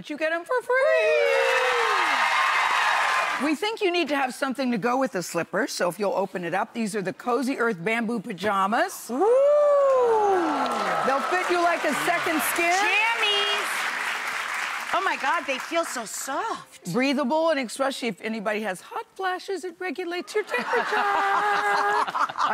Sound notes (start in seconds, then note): 0.9 audience cheers; 9.9 audience applauds; 20.4 audience laughs